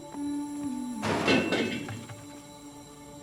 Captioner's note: ethereal music playing; wheel clattering